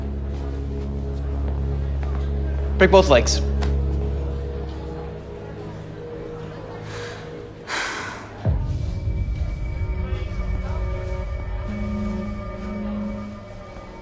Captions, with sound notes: - Break both legs. [Sigh] [Dark music]